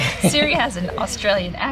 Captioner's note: laughs